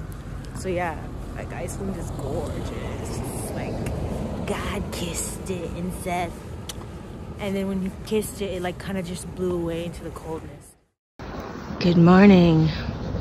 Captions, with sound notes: So yeah, Iceland is gorgeous. It's like God kissed it and said (kissing sound), and then when he kissed it, it kind of just blew away into the coldness. Good morning.